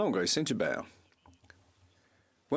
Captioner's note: speaking French